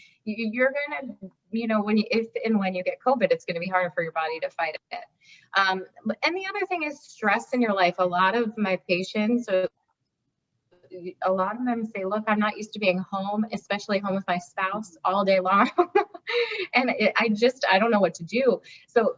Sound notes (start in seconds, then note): 15.6 laughs